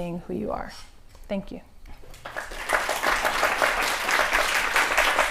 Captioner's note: clapping